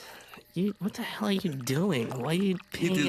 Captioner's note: liquid trickling